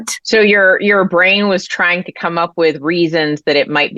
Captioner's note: none